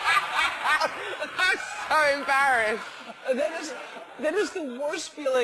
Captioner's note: laugh